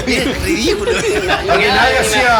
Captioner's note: laughs